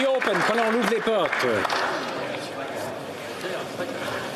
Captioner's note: applause